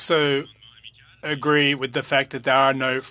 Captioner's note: speaking French